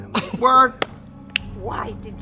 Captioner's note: Katya laughs